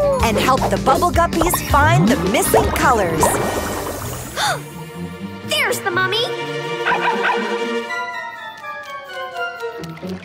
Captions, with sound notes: And help the Bubble Guppies find the missing colors. [gasping] There's the mummy. [barking]